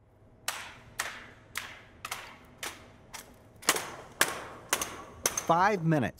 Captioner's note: rhythmic slapping, stomping